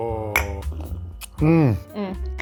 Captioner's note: mugs tinkling